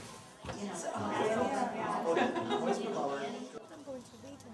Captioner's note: people chattering